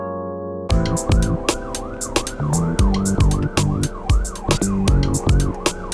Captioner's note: ambulance sound